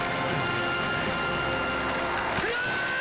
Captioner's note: Screams